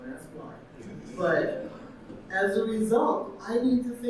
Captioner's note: audience laughing